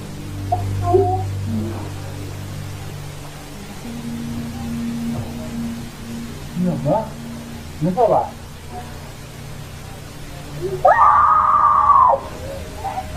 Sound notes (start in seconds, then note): 6.0 man speaking in foreign language; 10.8 woman screaming